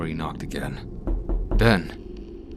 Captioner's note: knocking